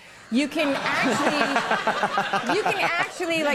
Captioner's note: Conan and audience laughing